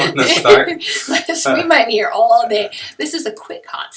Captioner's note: laughter